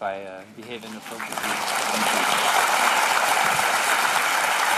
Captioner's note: applause